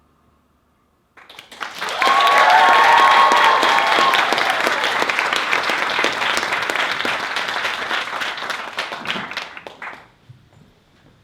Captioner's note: applause